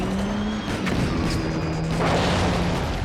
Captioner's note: explosion